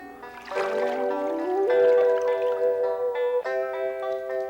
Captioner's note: intense music; water dripping